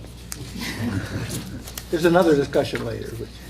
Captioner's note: laughter